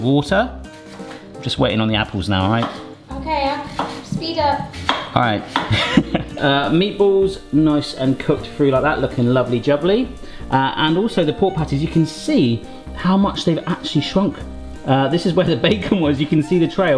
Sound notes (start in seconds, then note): 5.6 laughs